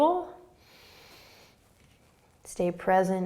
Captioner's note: inhaling